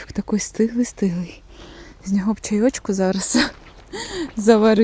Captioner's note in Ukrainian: хекання